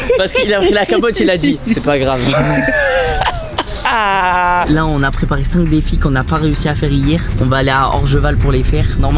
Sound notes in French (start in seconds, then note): 0.0 rire